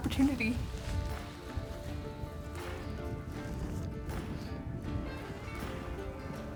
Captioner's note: soft music; wind whooshing